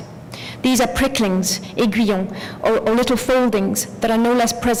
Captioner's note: french